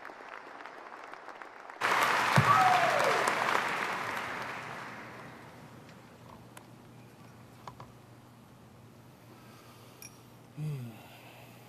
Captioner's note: applause